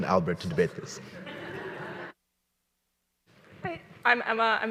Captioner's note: audience laughing